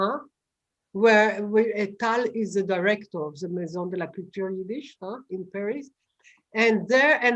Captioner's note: non-english; french